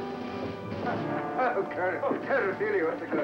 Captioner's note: captain Laughing